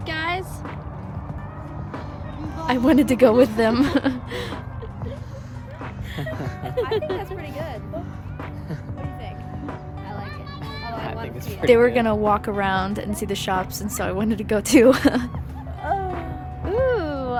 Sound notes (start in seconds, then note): 2.9 all laughing; 14.7 laughs